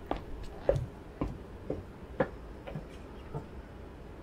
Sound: footsteps

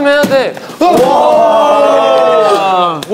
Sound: shooting

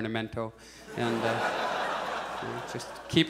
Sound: audience laughs

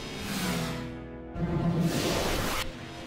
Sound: suction noises

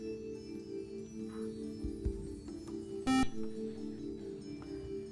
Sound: buzzer

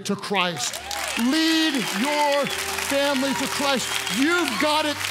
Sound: congregants applaud

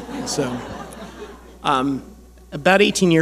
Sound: audience laughing

